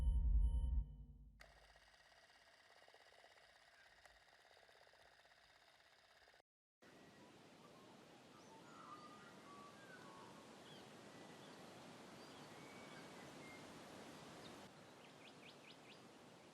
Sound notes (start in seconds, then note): 1.5 film reel spinning; 8.4 birds chirping